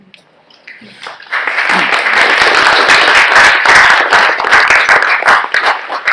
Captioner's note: clapping